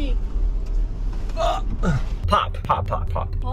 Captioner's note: groans